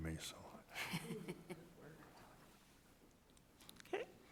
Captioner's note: directors chuckling